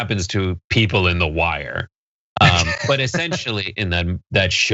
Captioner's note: laugh